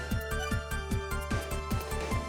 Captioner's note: none